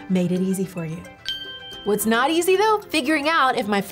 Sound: bell dinging

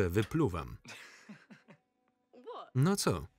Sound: Michael laughs loudly

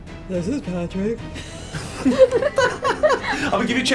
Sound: laugh

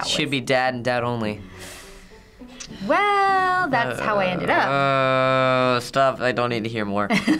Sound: groaning

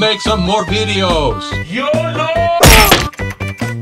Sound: smash

